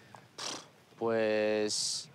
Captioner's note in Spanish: resopla